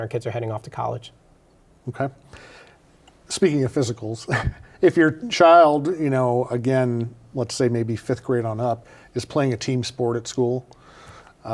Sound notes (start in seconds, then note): 4.2 chuckles